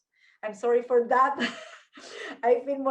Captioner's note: laughs